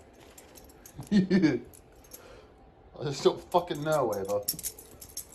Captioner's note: Ella laughs